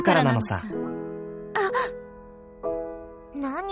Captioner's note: gasp